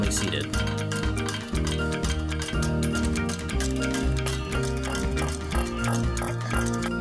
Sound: press noises

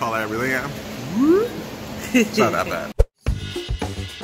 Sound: laughs

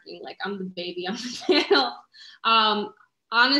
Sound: laughter

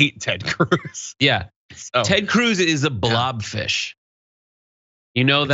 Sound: laugh

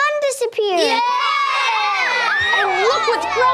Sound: cheers

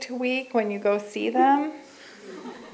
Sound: laughter

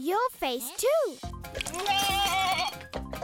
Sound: bleating

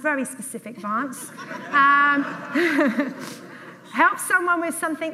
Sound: audience laughs

